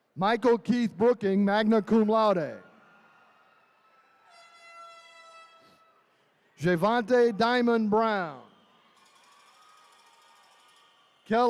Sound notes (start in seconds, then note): 3.6 attendees cheering; 3.6 horn blaring; 8.9 attendees cheering